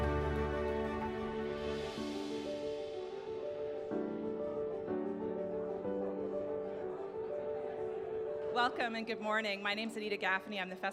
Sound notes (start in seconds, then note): 5.2 people chattering